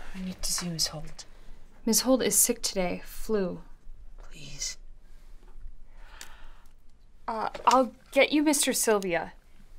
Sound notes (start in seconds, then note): 6.0 gasps